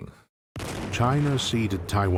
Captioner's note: artillery booming